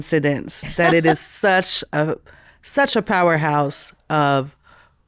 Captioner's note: laughing